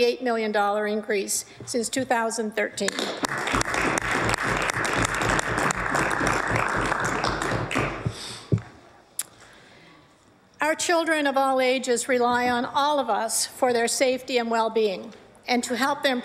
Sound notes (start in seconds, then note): 7.3 applause